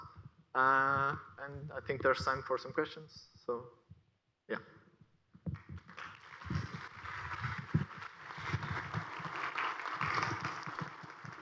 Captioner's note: aplause